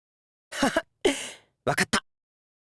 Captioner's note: chuckle